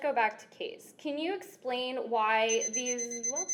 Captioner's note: beeping sounds